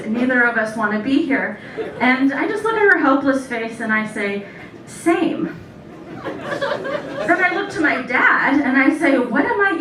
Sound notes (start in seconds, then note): 6.0 laughter